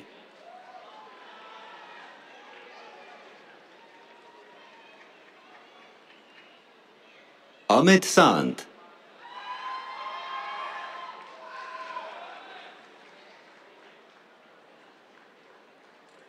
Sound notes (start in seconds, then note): 0.0 cheers, applause; 9.1 cheers, applause